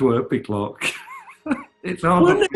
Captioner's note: laughing